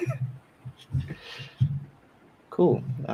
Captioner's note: laughter